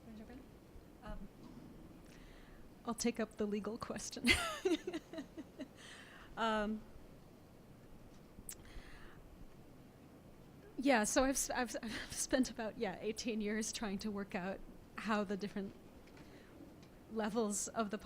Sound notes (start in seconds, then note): 4.3 laughs